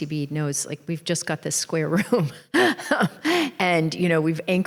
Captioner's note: chuckles